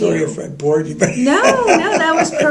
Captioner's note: laughter